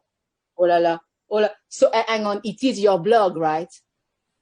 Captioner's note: french accent